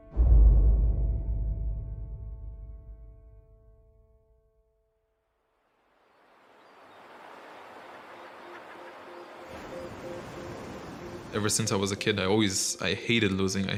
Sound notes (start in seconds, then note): 0.0 somber music playing; 6.1 waves crashing